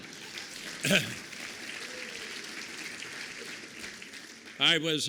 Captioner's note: applause